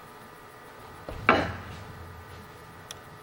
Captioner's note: whack